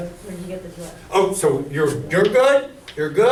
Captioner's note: voiceover